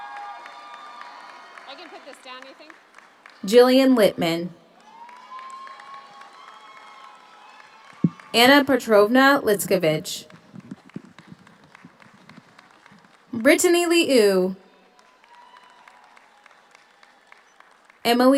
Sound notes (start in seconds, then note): 0.0 audience cheers; 0.0 audience applauds; 4.6 audience cheers; 10.1 audience applauds; 15.8 audience cheers